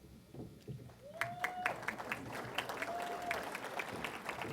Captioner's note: applause